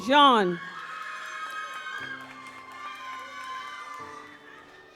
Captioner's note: audience applauds